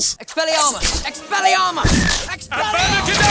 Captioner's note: magic whooshing